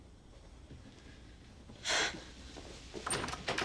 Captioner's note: sighs